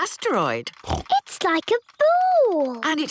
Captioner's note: snorts